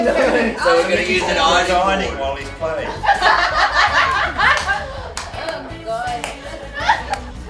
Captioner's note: laughter